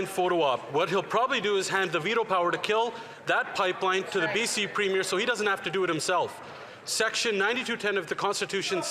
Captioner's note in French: voix de l'interprète